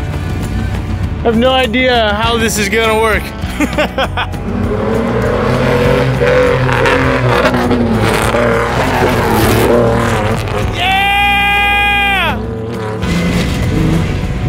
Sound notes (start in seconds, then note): 3.4 laughs; 5.0 engine revs; 10.7 cheers